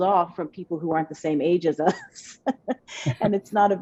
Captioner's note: laughs